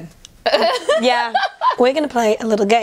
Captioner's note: laughter